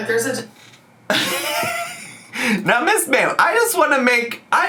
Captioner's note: laughs